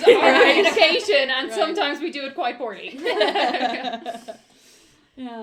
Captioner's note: laughter